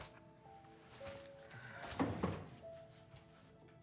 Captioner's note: sighs